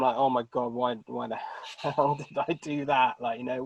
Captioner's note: laughing